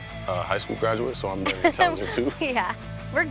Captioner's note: laughs